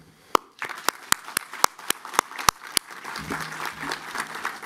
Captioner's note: applause